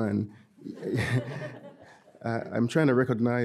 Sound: audience laughing

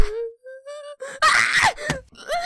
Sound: screams in pain

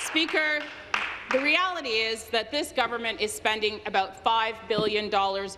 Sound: applause

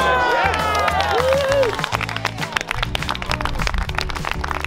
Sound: applause

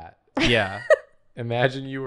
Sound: laughs

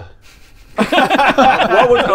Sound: technically correct laughter

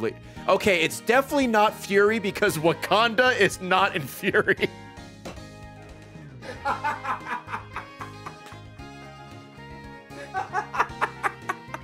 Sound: laughs

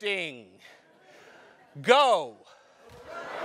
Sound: laugh

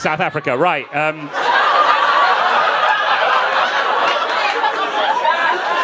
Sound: audience laughing

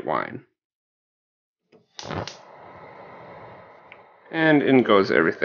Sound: gas stove lighting

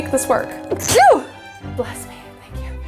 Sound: sneezes

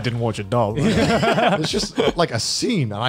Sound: laughs

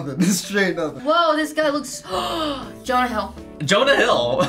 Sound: gasps; laughs

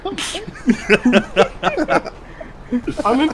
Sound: laughter

